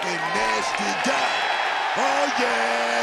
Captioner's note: crowd cheering